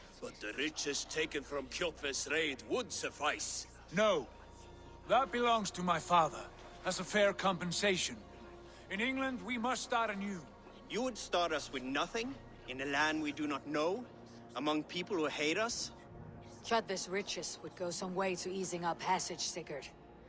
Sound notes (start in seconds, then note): none